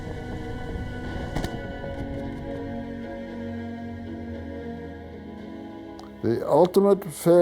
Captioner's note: gunfire